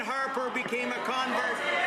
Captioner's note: some Applause